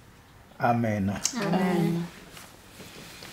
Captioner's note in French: en choeur